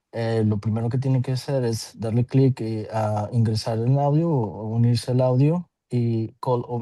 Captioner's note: interpreter continues speaking Spanish